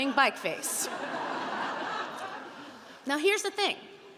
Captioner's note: audience laughing